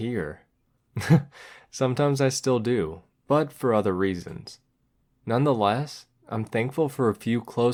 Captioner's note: chuckle